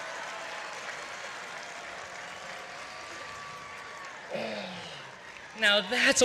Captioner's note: cheering; applause